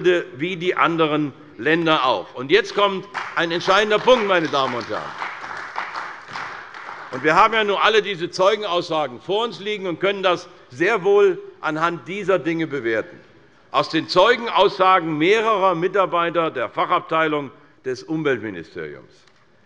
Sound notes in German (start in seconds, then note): 2.6 Beifall bei der CDU